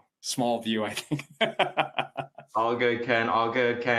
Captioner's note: chuckles